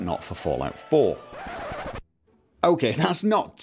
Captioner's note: comedic record scratch